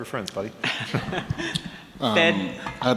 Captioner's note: everyone laughing